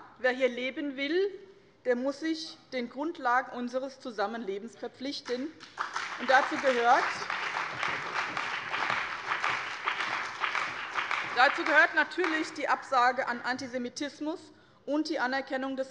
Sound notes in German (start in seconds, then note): 5.5 Beifall bei dem BÜNDNIS 90/DIE GRÜNEN, der CDU, der SPD und der FDP